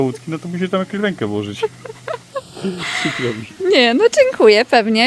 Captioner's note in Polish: śmiech